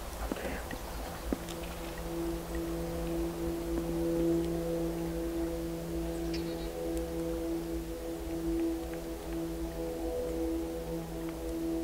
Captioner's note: airplane overhead